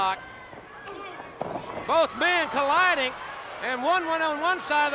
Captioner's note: footsteps plodding; body thudding